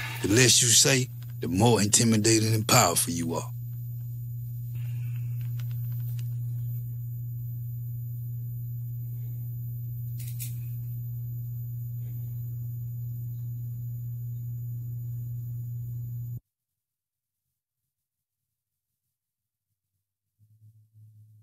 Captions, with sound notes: The less you say, the more intimidating and powerful you are. [humming noise] [clicking on phone]